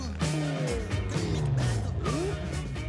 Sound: tires screech

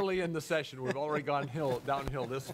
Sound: laughing

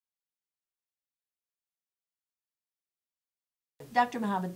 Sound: silence

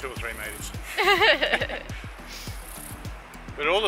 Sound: laughs

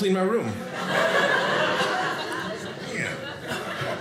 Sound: audience laughing

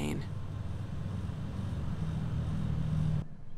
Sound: loud whirl of a fan

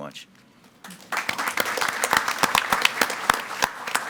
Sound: audience clapping

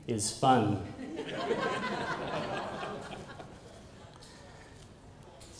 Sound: laughter

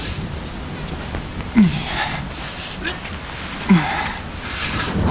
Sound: grunting

